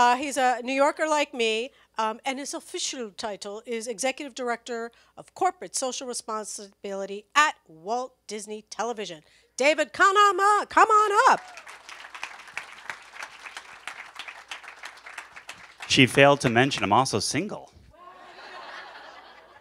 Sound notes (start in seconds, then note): 11.2 cheers and applause; 17.9 laughter